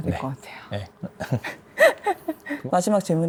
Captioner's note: laughs